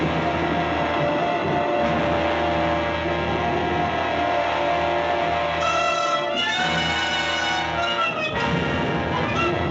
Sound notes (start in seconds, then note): 0.0 suspenseful music continues; 1.1 lightning crashing